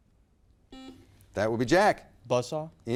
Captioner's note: buzzer beeps